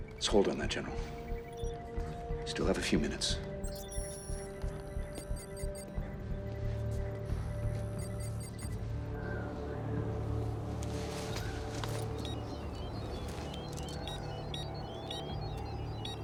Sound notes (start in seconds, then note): 9.0 wind whistling; 11.7 cube beeping